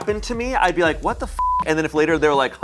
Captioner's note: beep